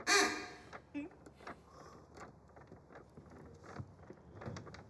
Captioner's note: paper fan rustling